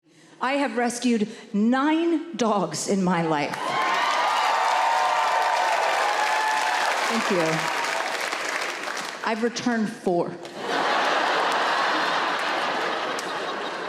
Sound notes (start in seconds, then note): 3.6 audience cheering; 10.5 audience laughing